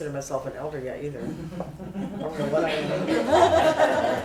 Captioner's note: laughter